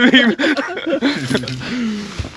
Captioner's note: laughts